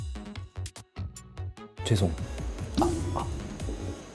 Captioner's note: in a serious tone